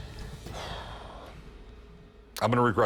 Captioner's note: sighs